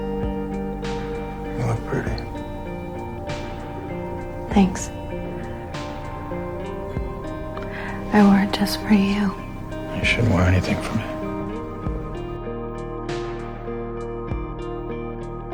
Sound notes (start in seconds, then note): 9.9 voiceover